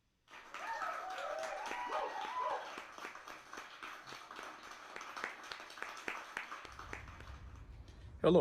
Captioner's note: applause and cheers